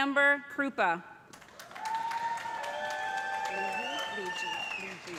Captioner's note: cheers and applause